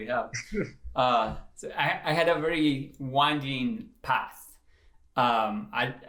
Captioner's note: laughter